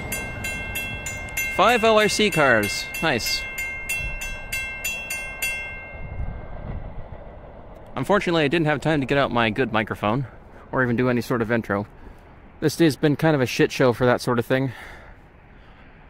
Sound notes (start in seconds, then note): 5.7 bell stops